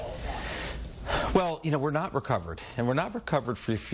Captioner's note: sighs